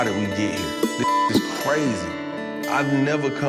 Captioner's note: beeping